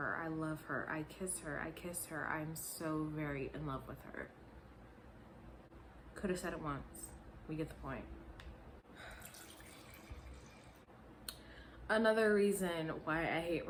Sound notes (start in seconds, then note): 9.0 pouring wine